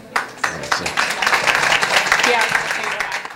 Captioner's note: applause